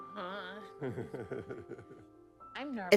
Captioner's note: laughing